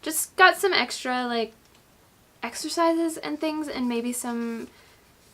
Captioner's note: none